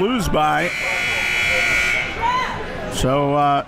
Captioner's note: buzzer rings